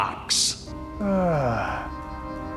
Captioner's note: sighs in Mafia